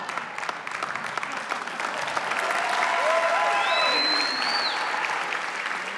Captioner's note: cheers and applause